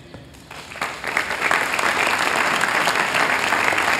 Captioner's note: applause